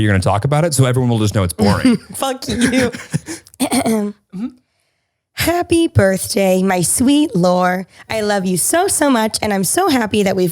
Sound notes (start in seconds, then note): 2.4 laughing